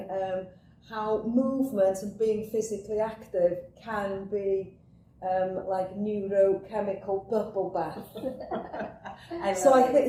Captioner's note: laughter